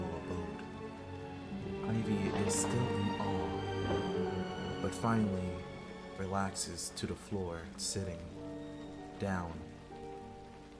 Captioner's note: crack of lightning